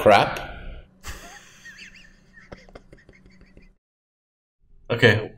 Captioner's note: snickers